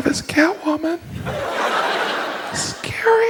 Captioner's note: audience laughs